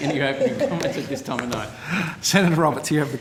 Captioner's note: men laughing